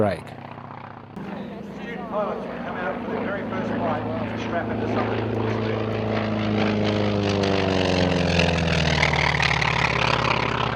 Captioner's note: aircraft sounds